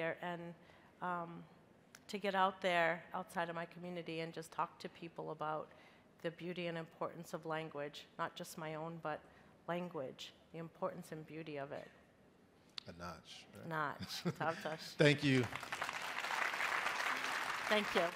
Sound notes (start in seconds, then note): 13.3 speaking in a foreign language; 15.0 crowd applauding